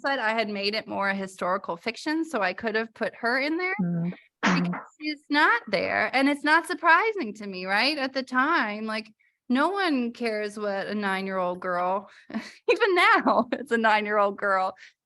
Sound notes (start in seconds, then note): 12.1 laughter